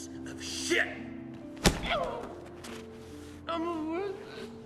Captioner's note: hitting